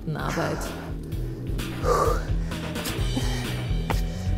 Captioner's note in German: stöhnt